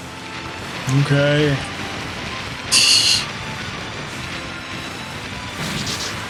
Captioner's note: laughs softly